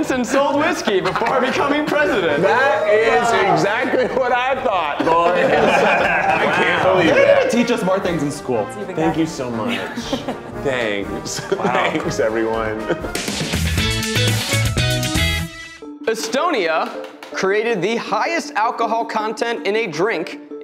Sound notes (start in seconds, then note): 5.6 laughing; 13.0 upbeat music